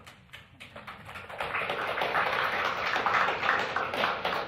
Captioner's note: applause